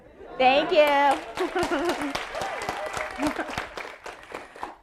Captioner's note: audience applauding